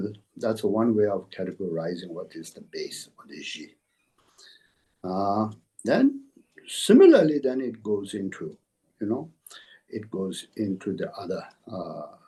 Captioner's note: tibetan